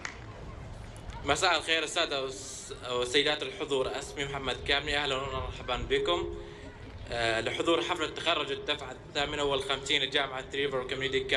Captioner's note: in Arabic